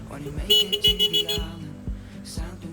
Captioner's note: aggressive honking